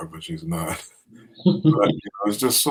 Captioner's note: laughter